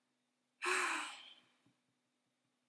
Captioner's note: dramatic sigh